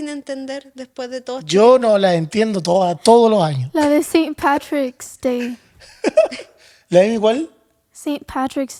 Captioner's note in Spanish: risas